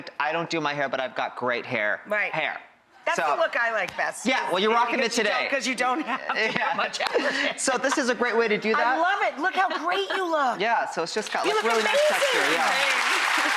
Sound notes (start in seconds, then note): 7.3 laughing; 10.4 laughing; 11.2 applause